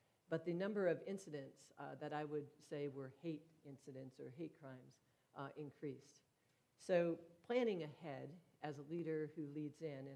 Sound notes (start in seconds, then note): none